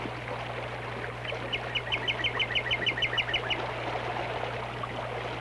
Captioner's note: birds chirping and water sounds